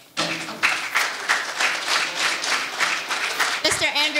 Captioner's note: audience applauding